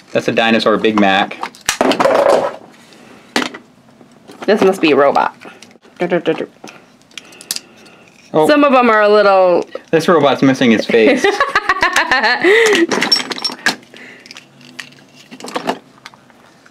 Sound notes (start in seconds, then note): 10.9 laughs